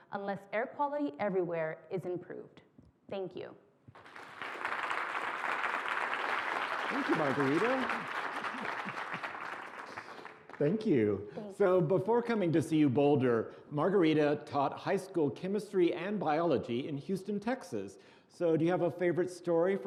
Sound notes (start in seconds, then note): 3.9 applause